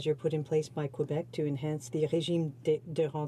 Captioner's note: speaking in french